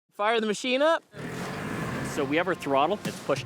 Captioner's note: snowmobile engine revs